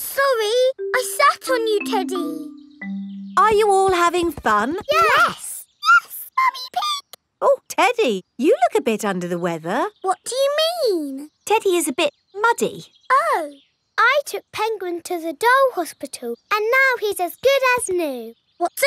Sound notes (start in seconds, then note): 5.8 in high-pitched voice; 10.3 in normal voice